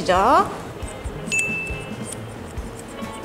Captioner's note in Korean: 효과음/띵하는 소리